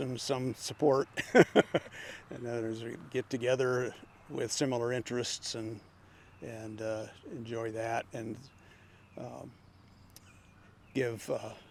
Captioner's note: laughing